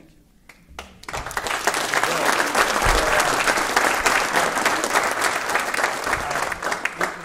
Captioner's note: applause